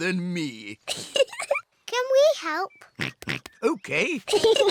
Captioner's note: laughs; giggles; oinks; peppa and george giggle